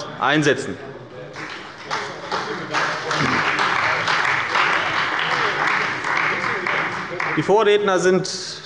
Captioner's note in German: Beifall bei der CDU und dem BÜNDNIS 90/DIE GRÜNEN